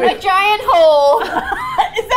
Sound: laughs; singsong

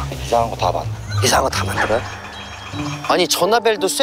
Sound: ring sound

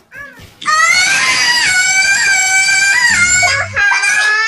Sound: Tarzan Scream

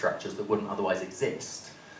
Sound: none

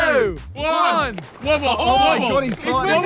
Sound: pool noodles slapping

